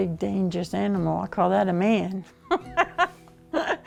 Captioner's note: laughter